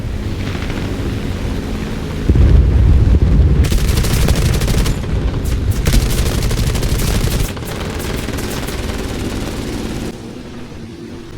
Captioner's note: engines, machine guns, flying sounds